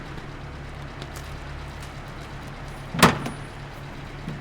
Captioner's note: car running